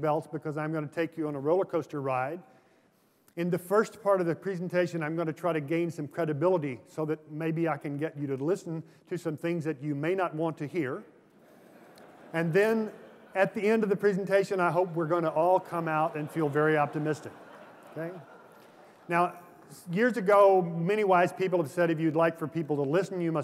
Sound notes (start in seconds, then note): 11.4 laughter; 17.0 laughter